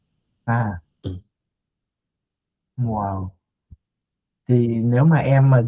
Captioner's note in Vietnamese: hắng giọng